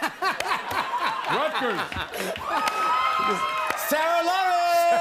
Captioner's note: laughter; cheering